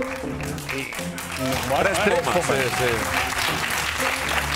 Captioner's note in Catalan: aplaudiments